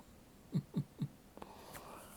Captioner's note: chuckles